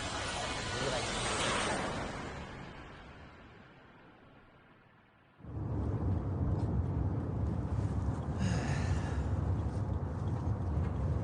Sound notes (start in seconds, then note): 0.2 video fast rewind sound effects; 5.4 car humming; 8.3 sighs